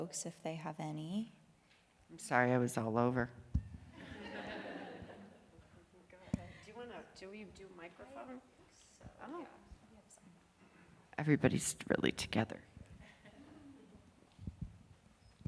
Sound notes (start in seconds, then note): 3.9 laughter